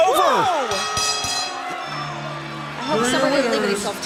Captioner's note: bell ringing